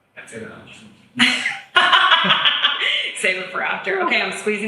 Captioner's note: laughs